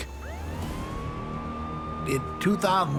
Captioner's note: siren blares